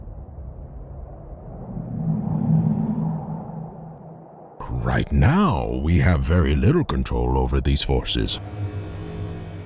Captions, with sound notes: (winds howling) right now we have very little control over these forces,